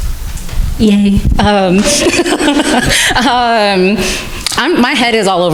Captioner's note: crowd laughing